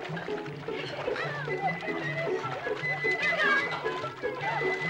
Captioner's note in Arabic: الفتيات يضحكن ويتحدثن